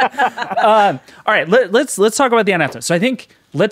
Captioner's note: all laughing; speaking faintly